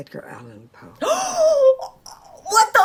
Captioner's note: 𝘰𝘶𝘵𝘳𝘢𝘨𝘦𝘥 𝘨𝘢𝘴𝘱